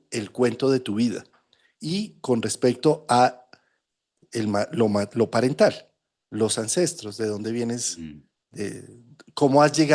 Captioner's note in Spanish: carraspeo